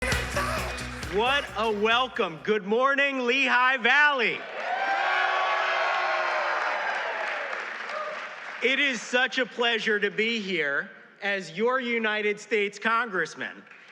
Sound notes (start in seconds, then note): 4.4 cheers and applause